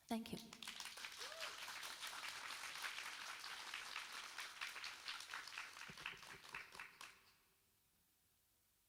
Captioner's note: applauds